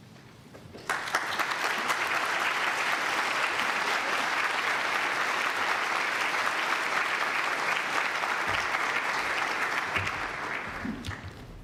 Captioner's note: applause